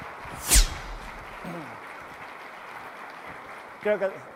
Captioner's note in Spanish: Aplaudindo